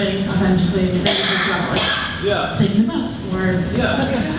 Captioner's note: speaker drowned out by coughing